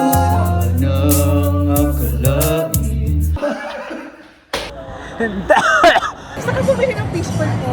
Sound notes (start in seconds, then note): 5.4 coughs